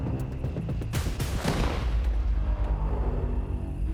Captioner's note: gun fires